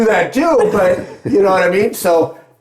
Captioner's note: laughing